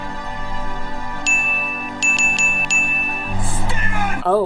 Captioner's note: ding